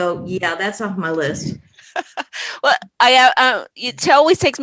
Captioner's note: laughs